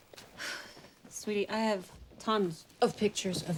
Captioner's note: sighs